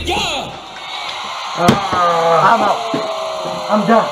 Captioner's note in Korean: 퍽!